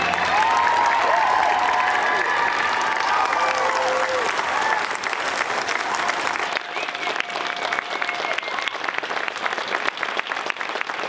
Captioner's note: applause and cheers from crowd